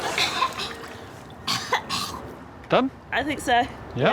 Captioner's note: coughs